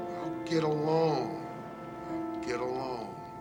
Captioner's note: alarm buzzing